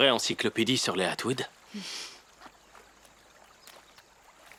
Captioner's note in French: clapotis de l'eau